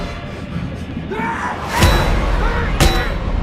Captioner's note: Crimms screams; Crimms grunting; head thudding